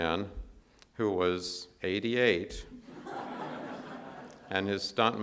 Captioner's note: audience laughs